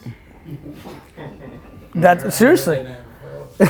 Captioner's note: laughing